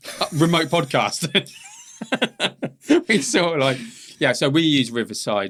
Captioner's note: both laughing